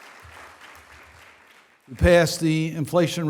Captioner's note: applause